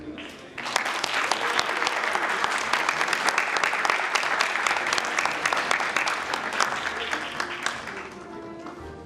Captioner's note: applause